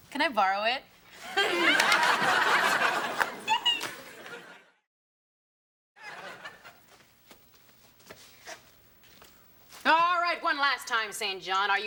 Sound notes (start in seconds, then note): 1.2 both laughing